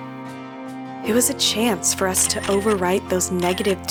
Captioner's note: camera flash